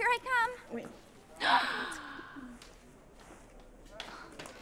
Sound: Adena gasps

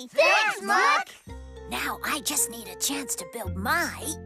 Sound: whispering

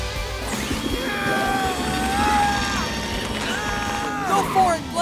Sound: grunting

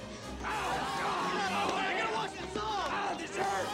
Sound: boys Screaming

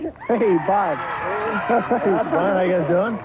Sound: crowd cheering

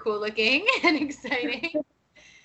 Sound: laughing

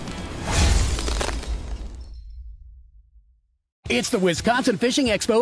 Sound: ice shatter

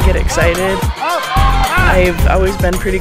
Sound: crowd cheering

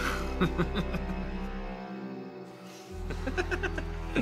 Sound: laughter

